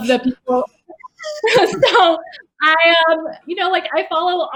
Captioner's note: giggles